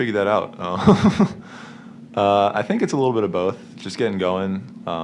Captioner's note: chuckles